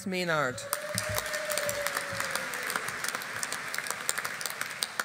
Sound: audience applauding

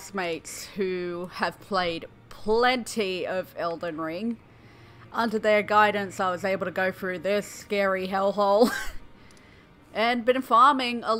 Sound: laughter

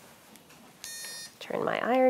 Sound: iron beeps

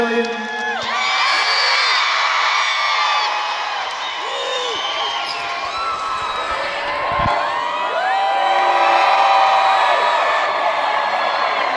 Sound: crowd cheering

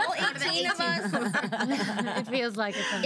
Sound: girls laughing

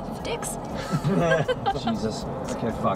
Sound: everyone laughs

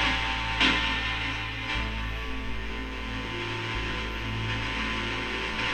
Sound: radio noise hissing continues

